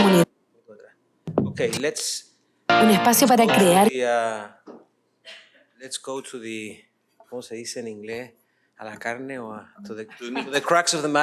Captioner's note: non-english speech